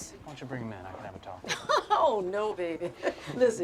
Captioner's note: Betty laughs